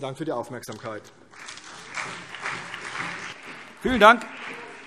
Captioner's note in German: Beifall CDU und BÜNDNIS 90/DIE GRÜNEN